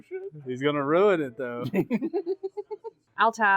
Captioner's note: chortles more